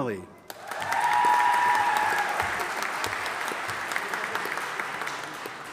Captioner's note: audience applauding and cheering